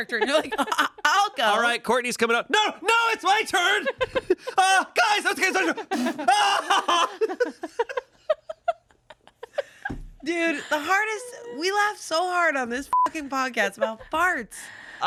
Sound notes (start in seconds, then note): 4.5 yells; 7.4 everyone laughs; 12.9 beep